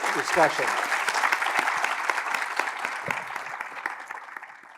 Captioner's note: applause